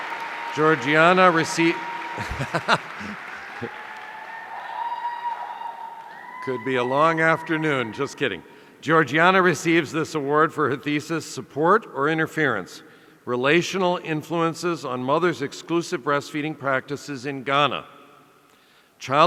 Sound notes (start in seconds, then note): 2.1 laughs